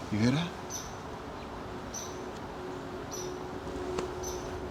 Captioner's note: birds chirping